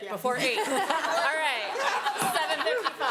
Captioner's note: all laughing; laughs